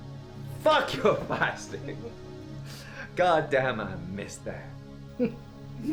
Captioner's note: Captain Brookes giggles